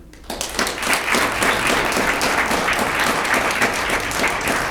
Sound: audience clapping

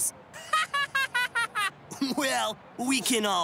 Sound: laughs

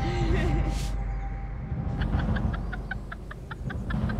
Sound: both laughing

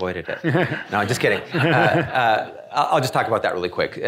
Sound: audience laughing

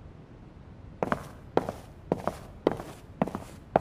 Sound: footsteps

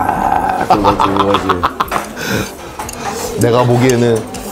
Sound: real laughs

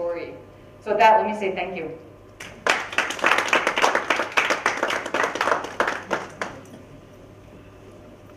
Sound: clapping

